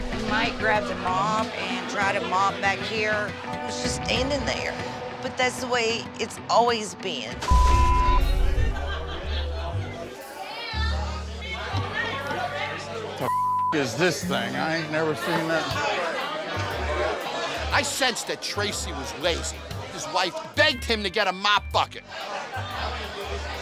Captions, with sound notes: You might grab the mop and try to mop back here. He was just standing there, but that's the way it's always been. (patrons chatting) - What the (beep) is this thing? I ain't never seen nothing... - I sensed that Tracy was lazy. His wife begged him to get a mop bucket.